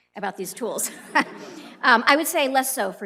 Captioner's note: laughter